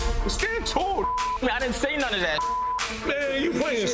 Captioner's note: beep